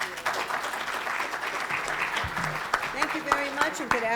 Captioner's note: applause